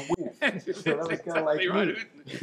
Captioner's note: laughing